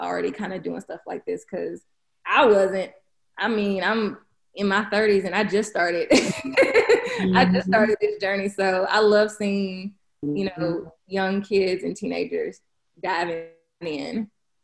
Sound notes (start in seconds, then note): 6.2 laughing loudly